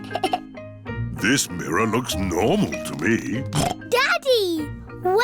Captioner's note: giggles; snorts